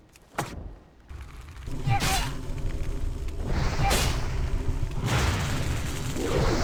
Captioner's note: grunts